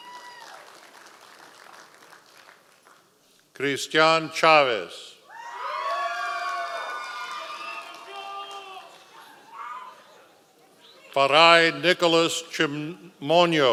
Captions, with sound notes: (audience applause) Christian Chavez. (members of the audience cheering) Fareje Nicolas Cimonno.